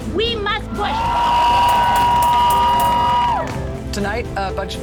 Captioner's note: crowd cheering